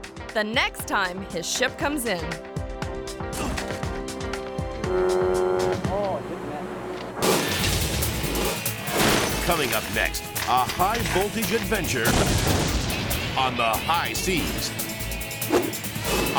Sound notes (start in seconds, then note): 2.6 bright music; 4.6 foghorn blaring; 7.5 upbeat music; 14.8 upbeat music continues